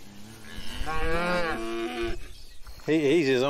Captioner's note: cattle lowing